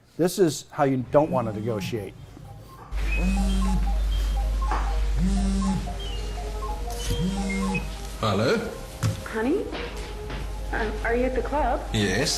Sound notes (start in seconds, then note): 3.1 phone buzzing